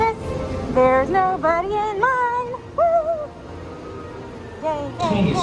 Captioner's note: in Singsong